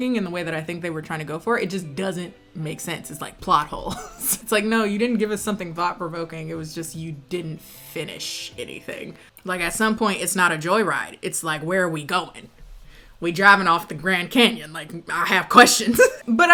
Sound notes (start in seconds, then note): 4.1 laughs